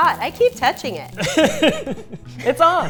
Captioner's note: laughing